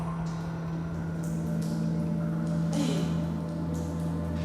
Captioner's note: dripping